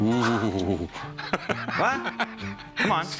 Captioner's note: laughs